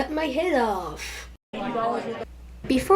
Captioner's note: conversation